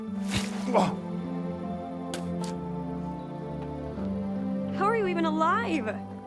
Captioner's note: gentle music; Walter gasps